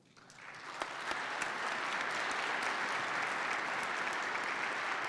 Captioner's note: participants clap